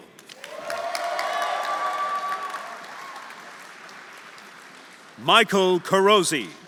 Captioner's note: audience applauding; audience cheering